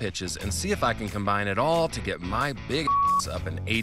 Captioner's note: beep